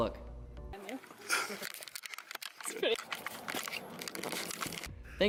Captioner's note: camera handling noise